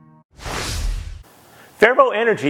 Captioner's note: graphics whooshing